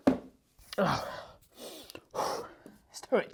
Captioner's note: deeply inhales